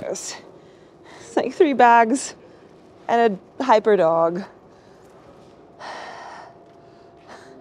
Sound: sighs

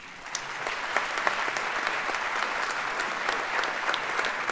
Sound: audience applauds

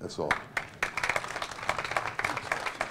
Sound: applause

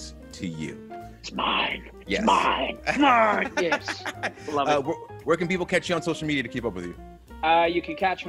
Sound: laugh

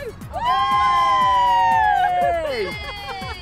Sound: cheering

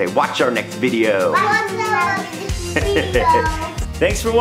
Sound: in Unison; chuckles

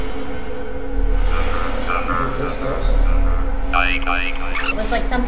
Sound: device beeping

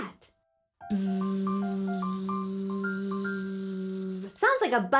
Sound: buzzing

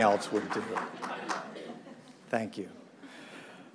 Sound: clapping

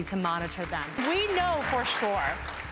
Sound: applause

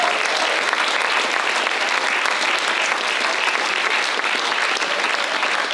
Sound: applause

